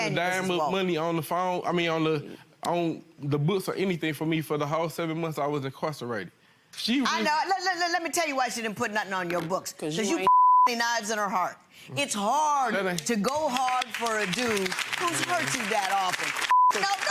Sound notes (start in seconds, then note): 10.1 beep